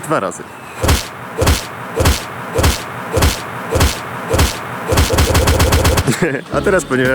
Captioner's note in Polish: chpszt